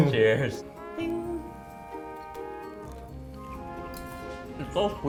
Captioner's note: imitates clinking glass